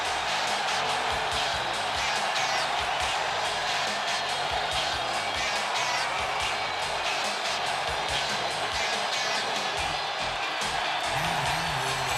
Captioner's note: crowd cheering